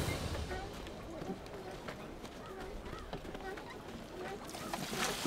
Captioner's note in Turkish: Ayak sesleri